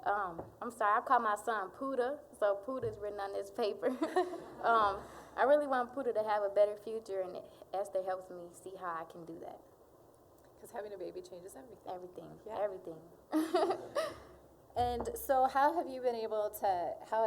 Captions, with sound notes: I'M SORRY-- I CALL MY SON "PUDDA," SO "PUDDA" IS WRITTEN ON THIS PAPER. (audience chuckling) UM, I REALLY WANT PUDDA TO HAVE A BETTER FUTURE, AND ESTHER HELPS ME SEE HOW I CAN DO THAT. >> 'CAUSE HAVING A BABY CHANGES EVERYTHING. >> EVERYTHING-- YEAH, EVERYTHING. (all laughing) >> AND SO, HOW HAVE YOU BEEN ABLE TO--